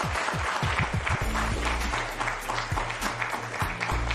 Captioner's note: applause